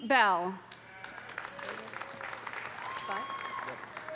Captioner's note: audience applauding; audience cheering